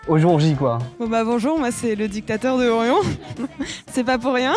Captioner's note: laugh